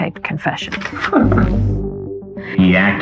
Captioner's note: chuckling